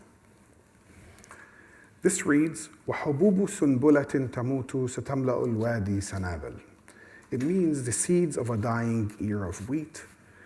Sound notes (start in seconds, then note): 2.6 speaks arabic